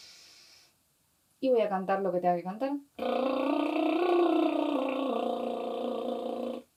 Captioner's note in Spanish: brrr - EXHALACIÓN